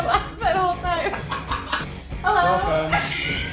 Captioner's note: laughing